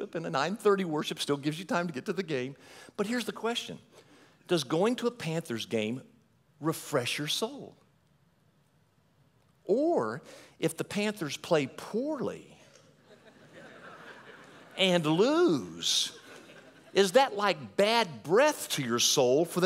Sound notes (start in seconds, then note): 13.0 audience laughing